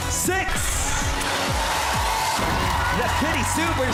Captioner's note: audience cheering